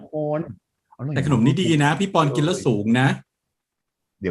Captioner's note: higher in Thai